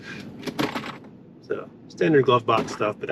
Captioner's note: glove compartment clunking